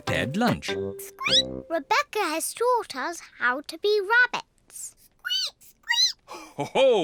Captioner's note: squeaks; peppa and george squeak; laughs